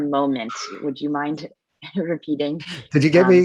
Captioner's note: chuckling